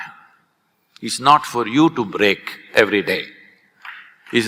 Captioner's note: applause